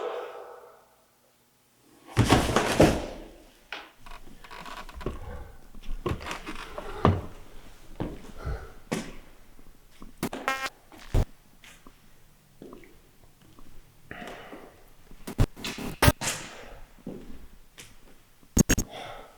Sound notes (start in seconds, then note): 2.2 body thuds; 4.0 wood creaking; 10.1 static crackling; 15.7 static crackling